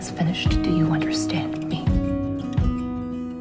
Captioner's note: voiceover